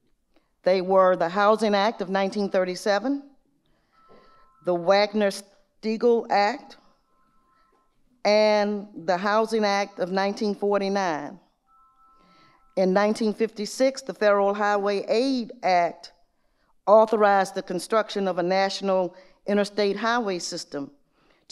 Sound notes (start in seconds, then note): none